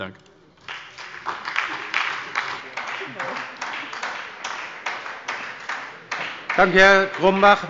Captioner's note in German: Beifall bei der SPD